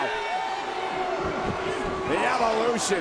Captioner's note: audience jeers